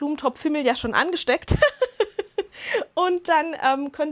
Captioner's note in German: Lachen